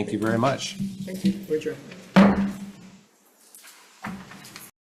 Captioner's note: gavel bangs